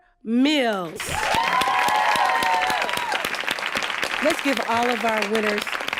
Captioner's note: applause and cheering